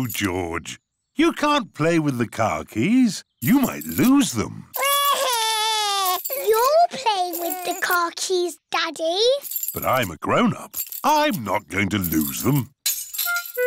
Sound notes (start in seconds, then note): 4.7 crying